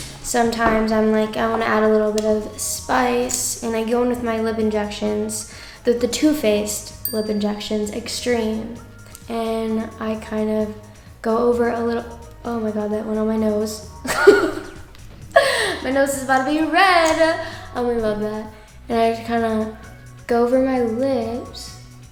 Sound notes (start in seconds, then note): 7.0 bell chimes; 14.0 laughs